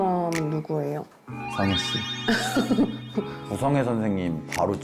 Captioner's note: one-track-mind sound effect